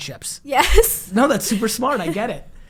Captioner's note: laughing